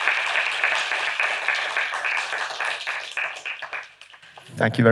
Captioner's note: applause